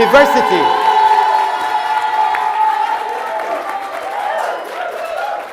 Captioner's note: audience cheering